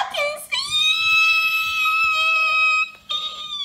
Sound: screeching

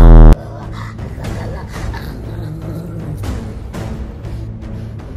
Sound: demonic noises

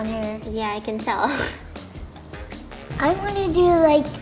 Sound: laughs

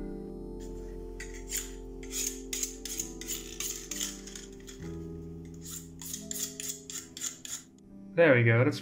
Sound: knife-sharpening sounds

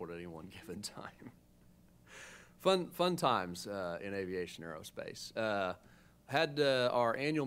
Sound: chuckles

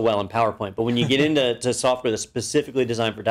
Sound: laugh

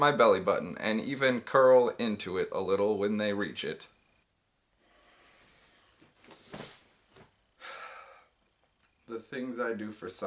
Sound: sigh

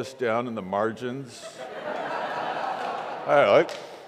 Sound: congregation laughs

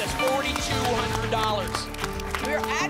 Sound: applause

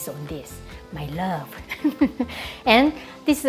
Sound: laughs

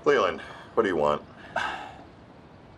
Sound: sighing

